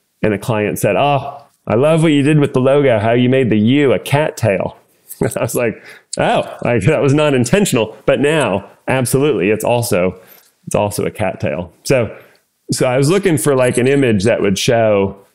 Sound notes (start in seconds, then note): 5.2 laugh